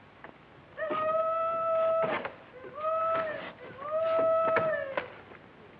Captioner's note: hollering